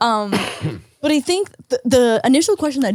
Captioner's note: Nick coughs